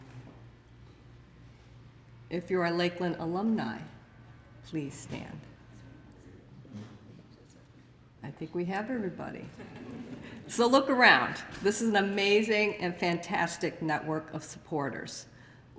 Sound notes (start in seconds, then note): 9.5 laughter